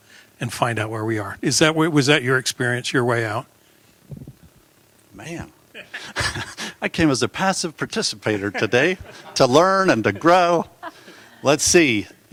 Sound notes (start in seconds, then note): 5.0 laughter